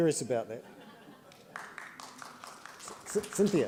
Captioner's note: laughter; applause